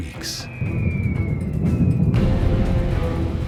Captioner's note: falling bombs whizzing